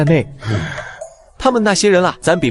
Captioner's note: gasp